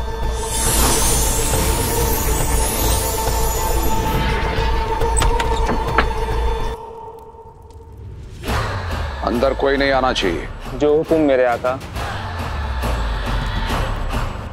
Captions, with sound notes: [magical sound] [door creaks open] No one should enter this room. Your order is my command, Master!